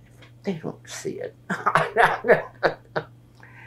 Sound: laughs

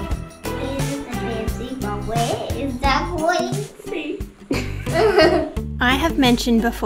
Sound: laughs

